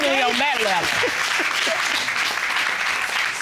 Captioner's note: applause